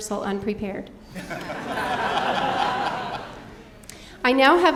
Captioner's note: audience laughing